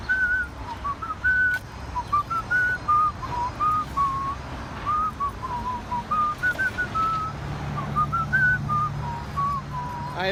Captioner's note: whistling